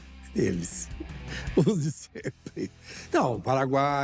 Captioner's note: laughs